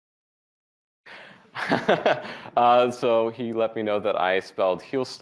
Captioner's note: laughs